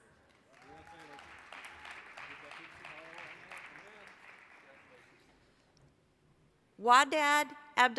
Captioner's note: applause